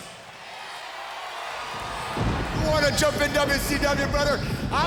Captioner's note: crowd cheering